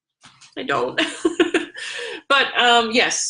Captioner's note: laughs